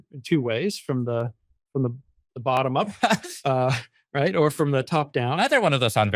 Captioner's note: laughs